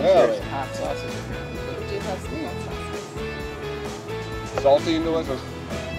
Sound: speaking in foreign language; background chattering

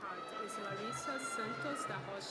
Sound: cheering

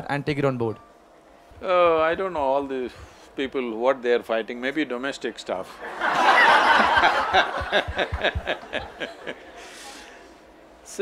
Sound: laughter

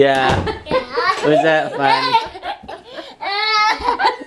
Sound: laughs

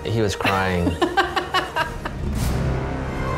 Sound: laughing; dramatic orchestra music

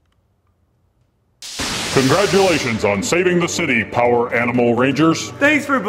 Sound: zap!

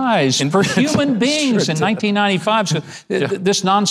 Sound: laughs

